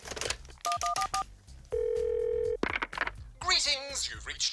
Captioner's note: phone beeps, ringing tone